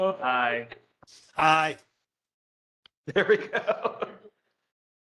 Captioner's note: laughter